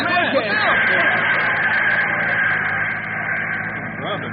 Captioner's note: cheering